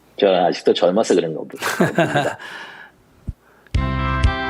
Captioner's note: Sunim Laughter